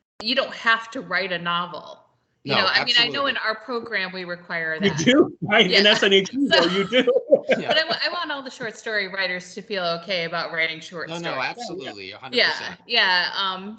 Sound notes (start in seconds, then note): 4.8 laughing